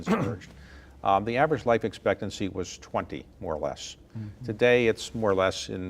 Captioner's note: throat clearing